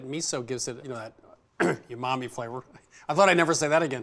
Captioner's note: clears throat